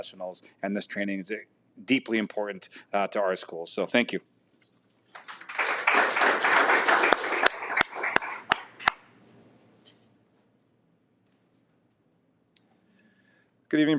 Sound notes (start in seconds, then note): 5.1 audience applauds